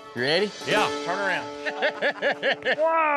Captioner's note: laughter